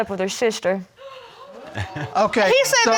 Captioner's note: crowd gasping